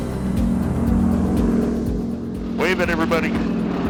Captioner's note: airplane engine roars